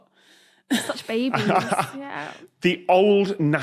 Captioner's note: chuckles